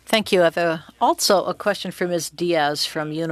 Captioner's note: speaking French